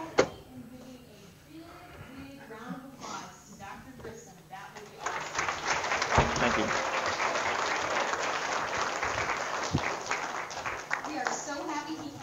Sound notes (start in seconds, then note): 5.0 audience applause